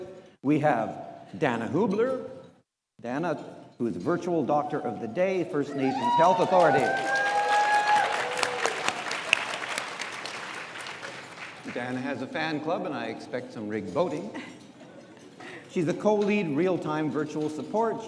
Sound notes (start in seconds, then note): 5.9 audience applauds